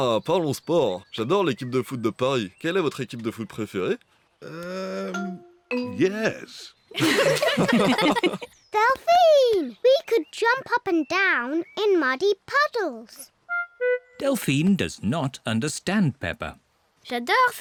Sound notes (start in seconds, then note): 6.9 all giggle